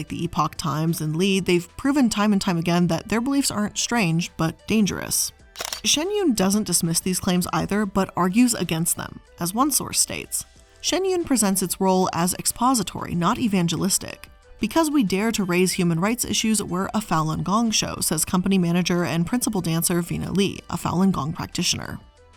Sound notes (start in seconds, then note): 5.5 camera shutter clicking